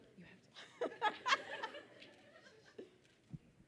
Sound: whispering

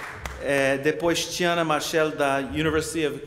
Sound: speaking portuguese

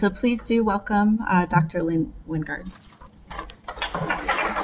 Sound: applause

